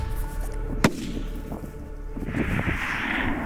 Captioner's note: gun shot